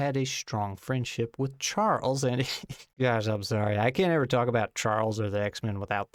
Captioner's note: breaks up laughing